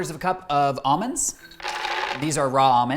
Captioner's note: almonds rattle